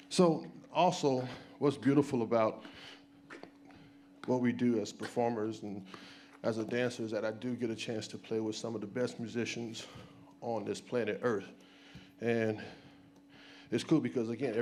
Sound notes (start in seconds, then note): none